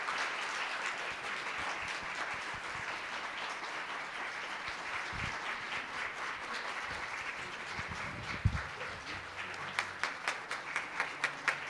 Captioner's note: applause